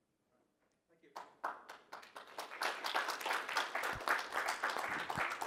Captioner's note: audience applauding